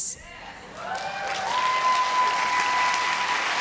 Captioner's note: applause